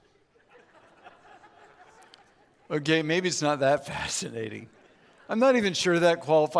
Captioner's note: audience laughs